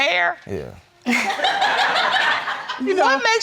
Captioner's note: audience laughing